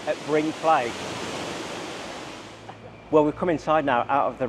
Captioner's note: water sloshing